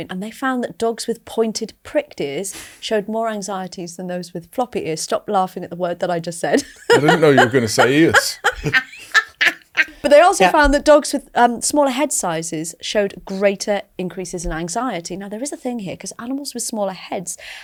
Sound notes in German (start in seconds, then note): 8.3 lacht